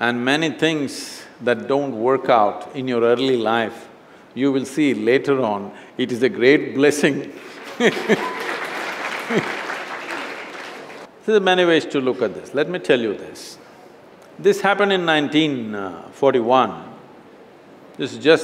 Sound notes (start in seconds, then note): 7.4 laughter/Applause; 7.6 laughs